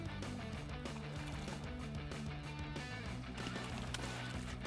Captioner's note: splashing